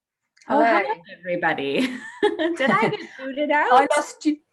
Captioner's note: laughs; laughs